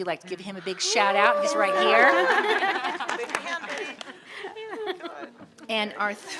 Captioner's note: audience laughing